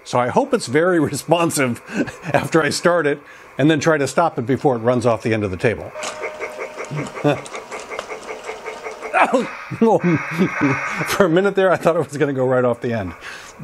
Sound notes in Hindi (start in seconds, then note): 6.0 स्टीम ट्रेन चगिंग की आवाज; 9.2 हस रहा